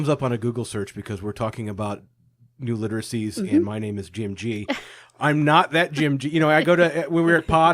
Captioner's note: laughing